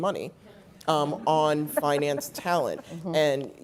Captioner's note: laugh